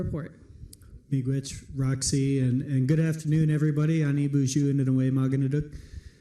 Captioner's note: foreign language